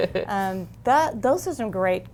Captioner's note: laughs